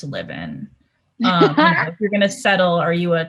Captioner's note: laughs